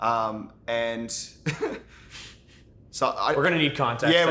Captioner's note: laughs